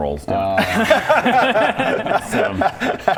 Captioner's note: unsympathetic laughter